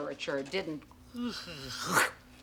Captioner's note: yawning